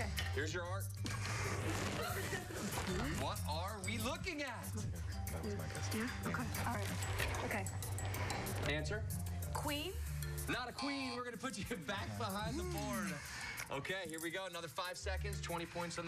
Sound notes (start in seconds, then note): 2.1 laughter